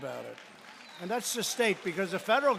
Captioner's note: applause